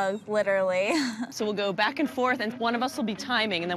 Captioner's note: laughs